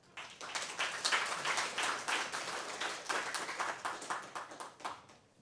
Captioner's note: applause